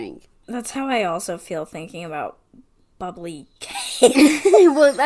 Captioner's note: laughs